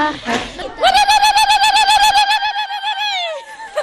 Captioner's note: cheering